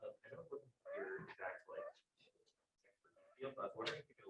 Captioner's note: person speaking softly